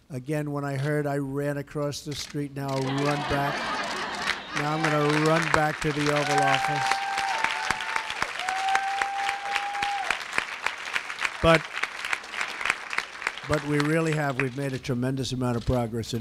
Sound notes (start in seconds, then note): 2.8 laughter; 7.2 applause